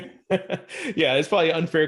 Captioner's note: laughing